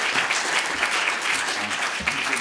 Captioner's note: clapping